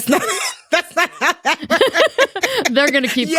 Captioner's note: both laughing